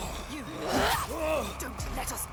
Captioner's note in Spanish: Senua y el enemigo gruñendo; voz haciendo eco